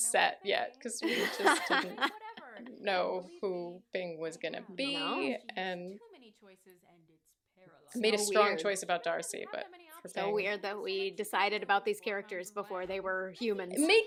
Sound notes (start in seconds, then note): 1.0 laughter